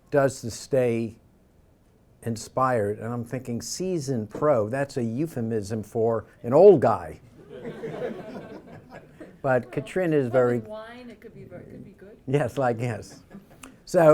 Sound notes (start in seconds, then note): 7.3 crowd laughter